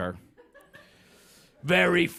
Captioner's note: laughter